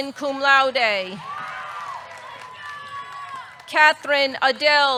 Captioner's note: audience cheering; audience clapping